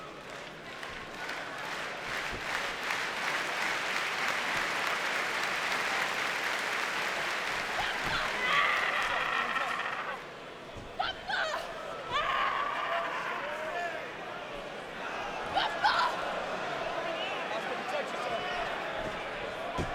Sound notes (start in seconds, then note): 0.1 audience claps; 7.8 Asuka screams